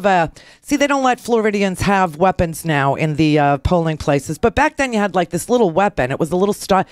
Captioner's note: none